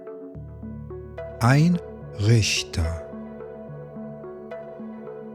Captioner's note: german